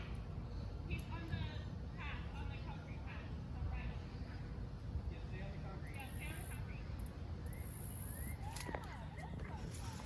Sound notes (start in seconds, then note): 5.6 crickets chirping